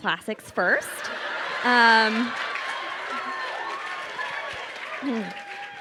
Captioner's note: crowd cheering and applauding